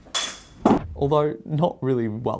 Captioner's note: knives clanking